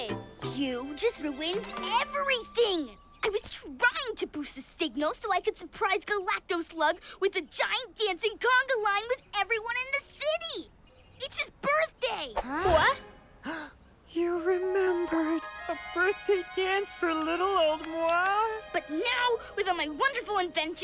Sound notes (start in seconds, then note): 13.4 gasps